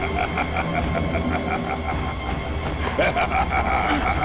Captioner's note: grunting